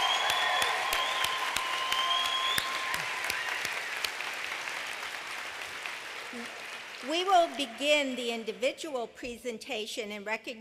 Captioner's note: applause